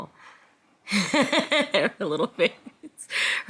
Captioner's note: Jasmine laughing